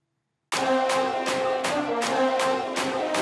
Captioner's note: theme music playing; crowd shouting